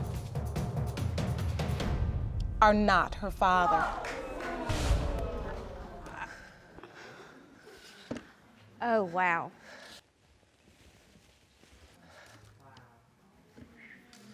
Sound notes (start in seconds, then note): 2.0 audience gasps